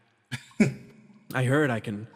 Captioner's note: chuckles